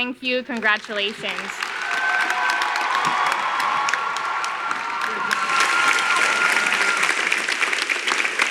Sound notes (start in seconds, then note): 2.1 audience cheering